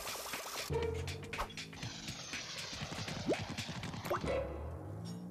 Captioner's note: none